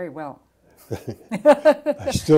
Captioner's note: laughter